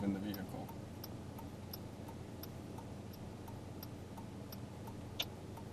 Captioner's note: car signal clicking